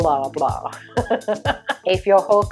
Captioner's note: laughs